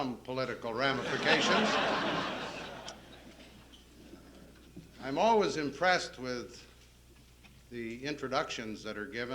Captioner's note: laughter